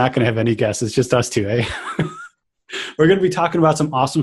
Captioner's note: laughs